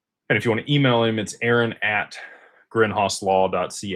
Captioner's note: none